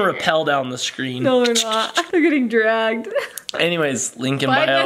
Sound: laughs

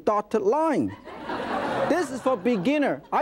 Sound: audience laughing

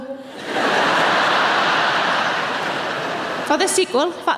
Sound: audience laughing

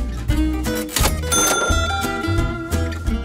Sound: cha-chinging; upbeat music

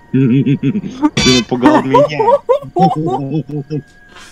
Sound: losing his mind in the background

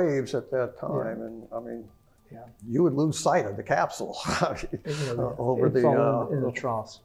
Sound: laugh

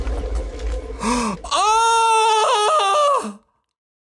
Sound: gasp

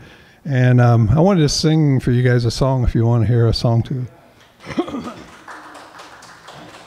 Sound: applause

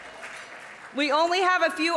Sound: audience applauding

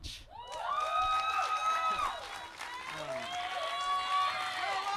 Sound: audience cheers and applauds

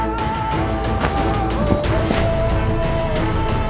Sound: clothes whooshing

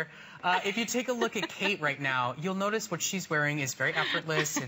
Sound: laughter

